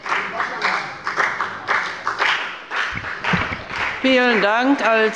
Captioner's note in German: Beifall bei der FDP